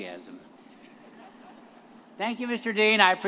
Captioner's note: all laugh